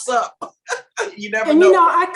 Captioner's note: Barbara laughs